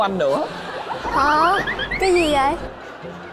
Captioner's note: laughing